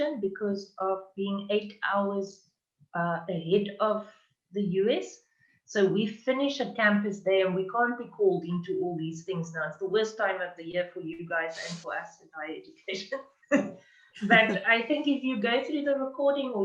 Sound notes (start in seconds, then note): 14.2 laughs